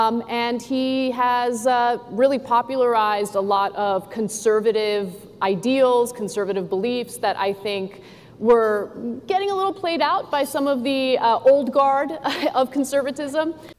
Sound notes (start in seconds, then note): none